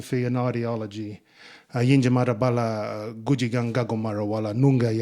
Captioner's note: speaking in Ngunnawal